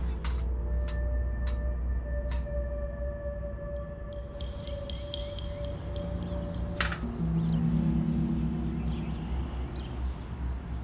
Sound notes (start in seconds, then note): 0.1 blinds creak; 0.1 ominous music; 6.7 blinds close